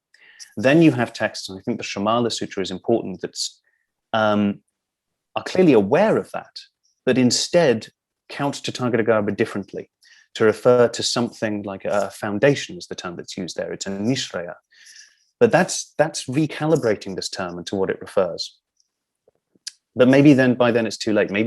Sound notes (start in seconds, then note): 14.2 non-english